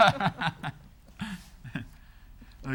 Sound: laughing

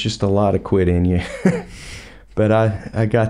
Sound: laughs

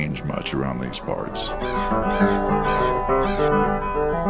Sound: birds cawing

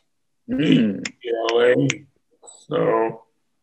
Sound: finger clicks

